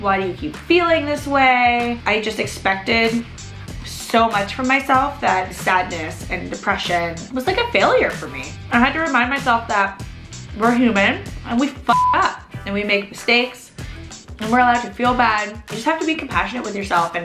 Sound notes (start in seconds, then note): 11.9 beep